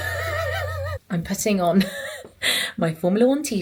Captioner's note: laughs